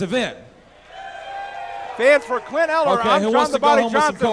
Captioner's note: crowd Roars